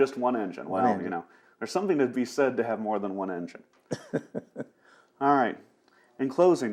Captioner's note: laughs